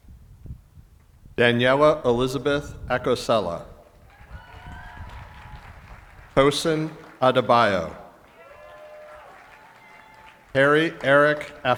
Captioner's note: cheering and applause